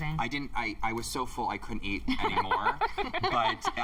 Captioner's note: laughter